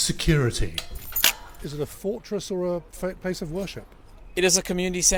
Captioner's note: gate unlocks; gate locks